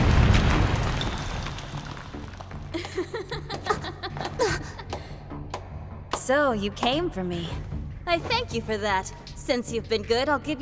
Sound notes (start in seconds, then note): 0.0 rocks pattering; 2.4 Zinnia laughing and clapping; 2.9 gasps